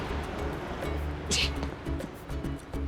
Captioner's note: scoffs